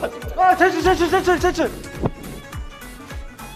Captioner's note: terengah-engah